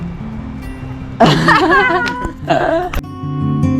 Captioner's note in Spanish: Risas